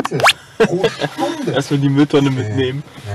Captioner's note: laughs